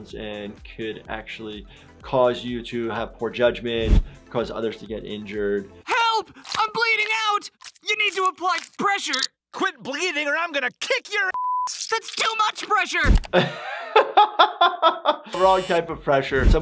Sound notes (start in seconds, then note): 11.3 beep; 13.3 laughs